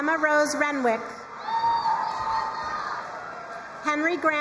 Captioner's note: crowd cheering and applauding